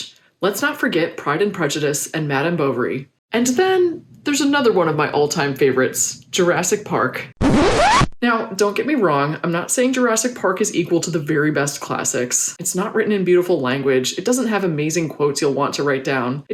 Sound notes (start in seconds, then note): 7.3 record scratch